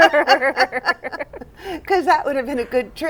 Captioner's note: laugher